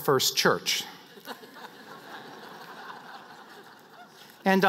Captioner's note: laughter